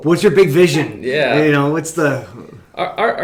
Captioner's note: laughing